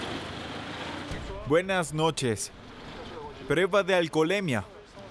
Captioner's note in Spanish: Audio hablado en francés